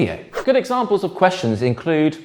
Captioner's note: page whips